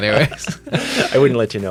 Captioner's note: both laugh